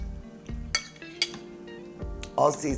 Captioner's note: spoon clanking